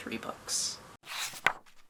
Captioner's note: page turning